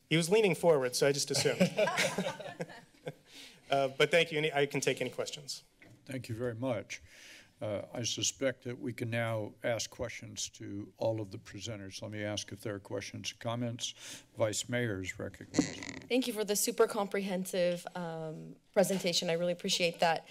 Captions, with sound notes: He was leaning forward so I just assumed. [chuckles] But thank you and I can take any questions. - Thank you very much. I suspect that we can now ask questions to all of the presenters. Let me ask if there are questions, comments? Vice mayor is recognized. - Thank you for the super comprehensive presentation. I really appreciate that.